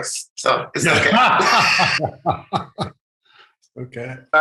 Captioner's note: all laughs